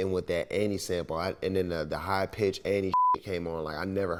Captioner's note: beep